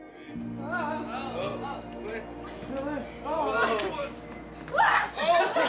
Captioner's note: group talks indistinctly